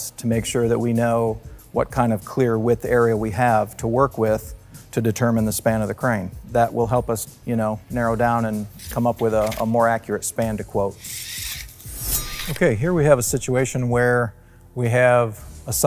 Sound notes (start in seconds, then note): 10.9 measuring tape retracting; 11.0 sword slicing